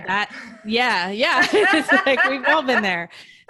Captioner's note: laughing